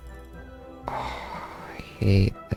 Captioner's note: sigh